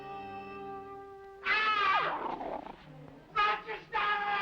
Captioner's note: odd scream; odd voice